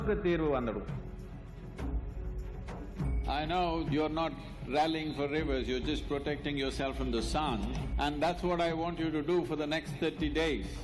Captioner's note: speaks in Hindi - not transcribed; speaks in Hindi - not transcribed